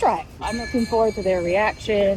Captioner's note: metal clanging